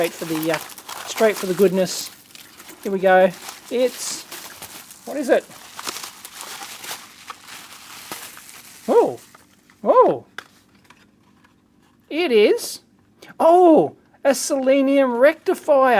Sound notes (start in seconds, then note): 3.3 plastic rustling